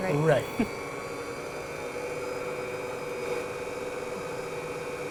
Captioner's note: mixer whirring